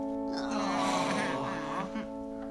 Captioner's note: all groan